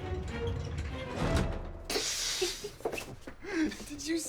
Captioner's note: laughing